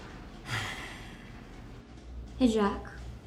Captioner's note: brooms clattering; Jack sighs